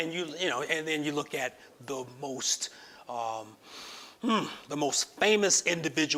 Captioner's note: sighs